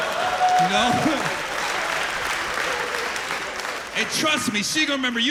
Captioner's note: laughter